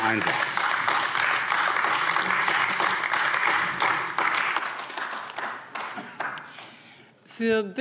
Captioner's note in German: Beifall AfD